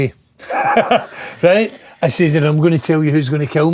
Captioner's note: laughing